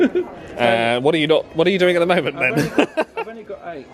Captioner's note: laughs; laughs